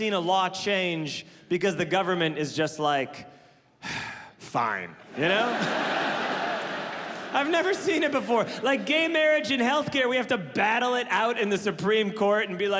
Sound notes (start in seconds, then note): 3.8 sighs; 5.1 audience laughing